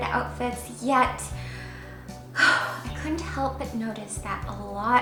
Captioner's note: sighs